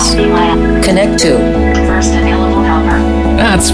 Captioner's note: robotic Assistant